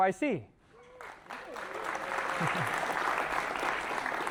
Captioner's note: applause